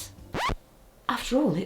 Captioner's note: record scratches